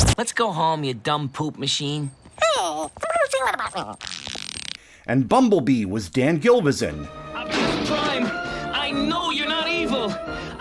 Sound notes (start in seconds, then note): 3.9 fart sound